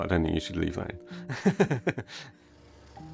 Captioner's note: laughs